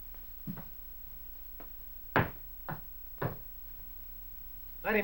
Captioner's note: taps with foot